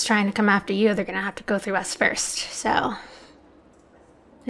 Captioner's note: none